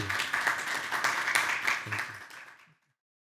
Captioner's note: audience applauding